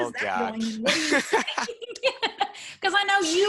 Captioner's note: laughs